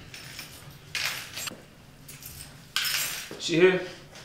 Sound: keys jiggling

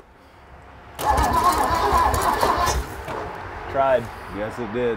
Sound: engine revs

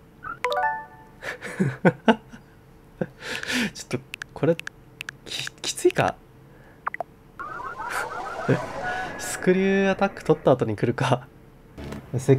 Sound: laughs

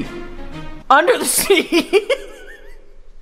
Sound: laughing

